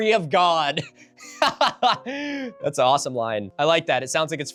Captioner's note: laughs